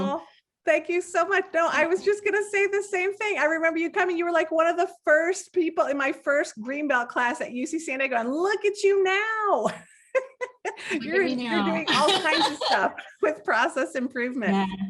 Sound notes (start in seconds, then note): 9.6 laughs